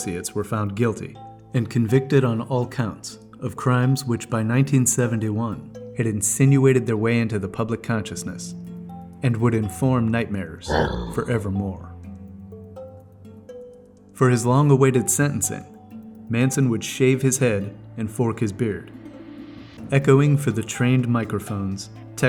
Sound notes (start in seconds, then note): 10.6 dog growls